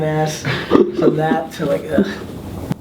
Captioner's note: laughs